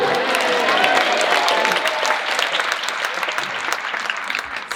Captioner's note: applause